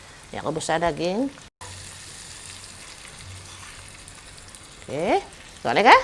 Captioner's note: sizzling sound when the curry mix is added into the pan